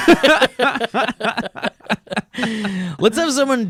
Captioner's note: laughing